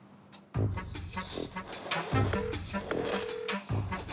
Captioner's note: loud slurping